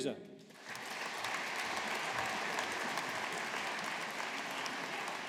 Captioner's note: audience applauding